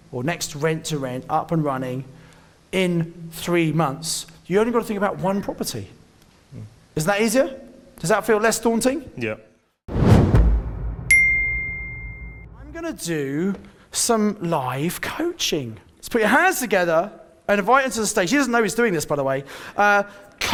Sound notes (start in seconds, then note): 9.9 air whooshing